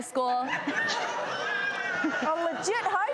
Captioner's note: audience laughs